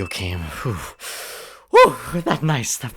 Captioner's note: exhales; catches breath